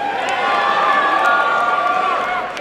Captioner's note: applause and cheering